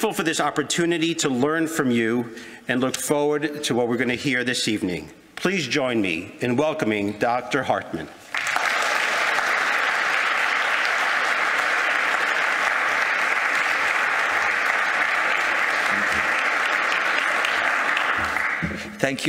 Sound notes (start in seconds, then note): 8.2 applause